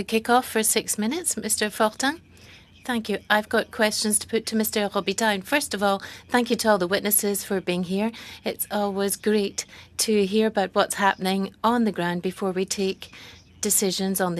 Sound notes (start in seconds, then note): 3.2 speaking French